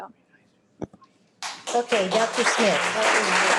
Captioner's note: audience clapping